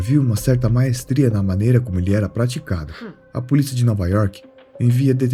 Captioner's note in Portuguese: limpando a garganta